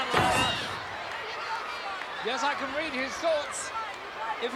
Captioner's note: applause